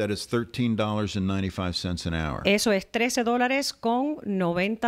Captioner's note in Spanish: Hablando ingl\s